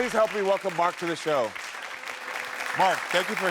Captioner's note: audience applauds